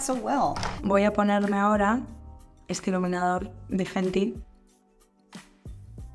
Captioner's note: speaking in Spanish